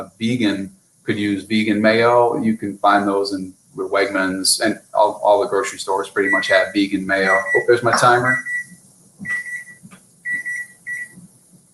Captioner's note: timer beeping